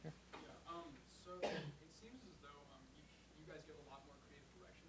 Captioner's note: voiceover